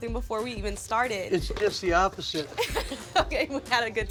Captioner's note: laughs